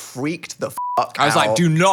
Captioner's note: beep